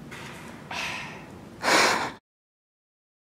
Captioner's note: sigh